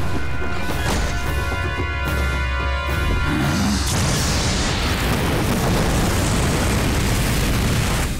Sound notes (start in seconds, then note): 2.8 grunting